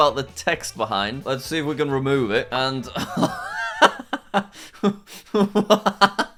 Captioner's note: laughs